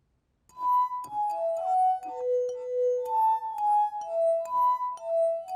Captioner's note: glasses vibrate to the tune